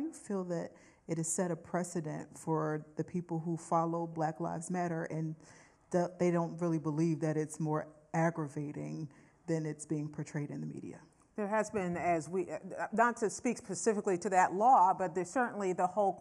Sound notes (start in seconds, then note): none